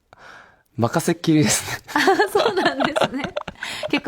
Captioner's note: laughs